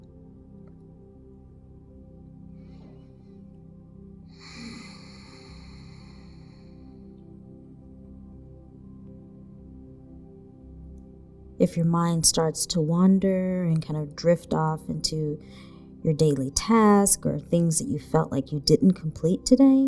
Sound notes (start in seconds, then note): 0.1 relaxing music; 4.4 exhaling; 7.8 relaxing music